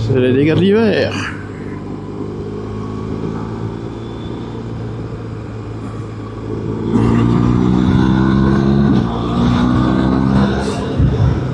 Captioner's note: engine